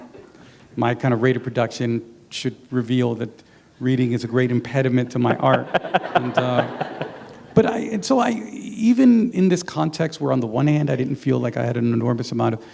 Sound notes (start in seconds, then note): 5.3 laughter